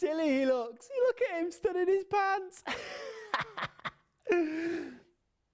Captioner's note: laughs